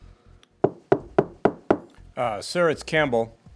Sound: knocking on door

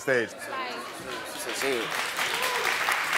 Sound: mumbles; audience applauds

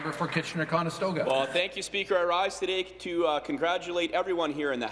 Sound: some Applause

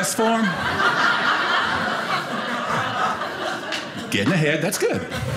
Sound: audience laughing

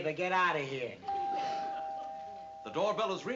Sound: doorbell

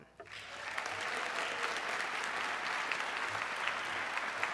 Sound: audience clapping

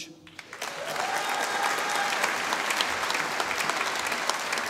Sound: audience applauding

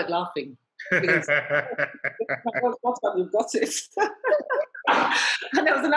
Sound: laughter

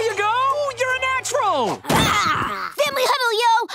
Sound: shouts

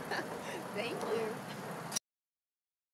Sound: chuckling

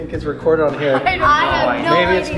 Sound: chuckles

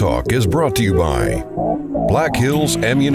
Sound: voiceover

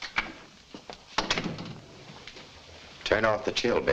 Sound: door thuds shut

